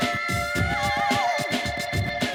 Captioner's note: horn honking